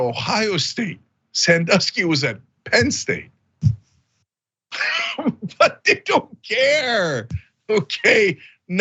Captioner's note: laugh